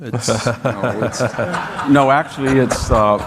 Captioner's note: audience laughing